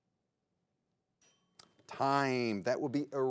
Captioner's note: bell rings